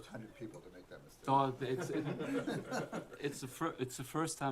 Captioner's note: laughter